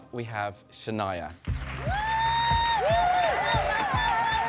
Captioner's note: cheering & applause